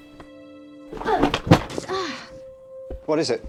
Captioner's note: Ruth grunting